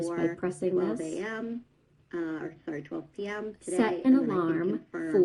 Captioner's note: other video playing in background